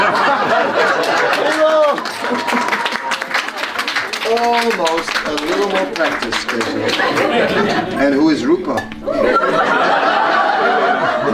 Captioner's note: laughter. Applause. Haribol!